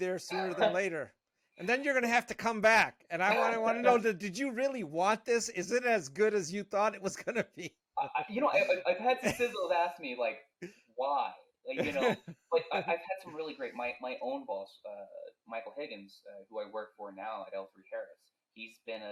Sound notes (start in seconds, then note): 7.8 laughing